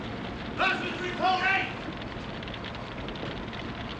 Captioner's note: fireman yelling